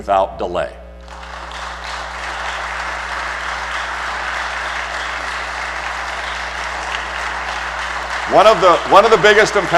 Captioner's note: applause